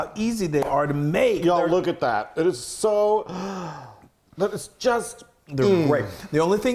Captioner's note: gasps